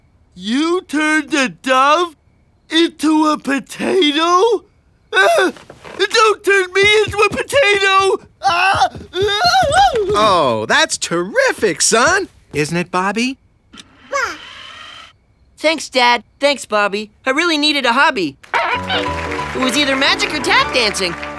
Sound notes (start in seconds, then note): 8.4 screaming; 14.1 cooing